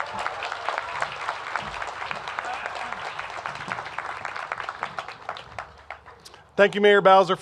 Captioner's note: cheers and applause